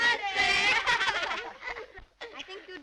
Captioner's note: laughter